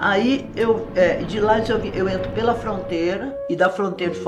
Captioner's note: plane sound